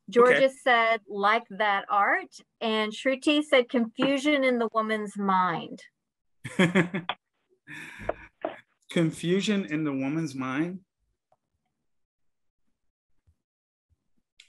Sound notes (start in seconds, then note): 6.5 laughs softly